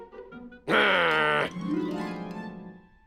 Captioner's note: growls